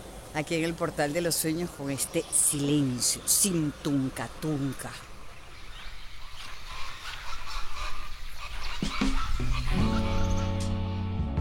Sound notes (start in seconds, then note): 5.4 birds